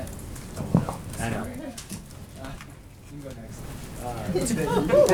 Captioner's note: laughter